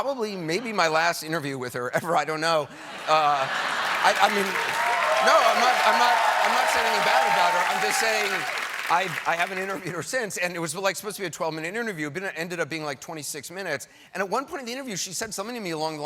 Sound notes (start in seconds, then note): 3.6 cheers and applause